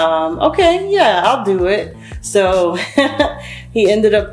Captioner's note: chuckles